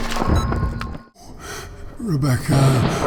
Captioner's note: wet, fleshy sounds, heartbeat and beeping of EKG; wheeze; half-lucid, voice failing